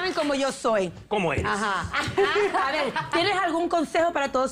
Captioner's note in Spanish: aplausos